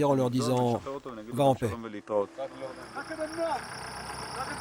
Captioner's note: Hebrew spoken audio